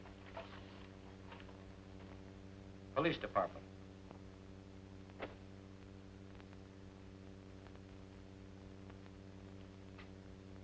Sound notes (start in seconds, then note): none